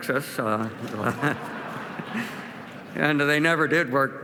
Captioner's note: laughter